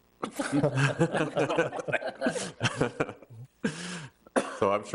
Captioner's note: everyone laughs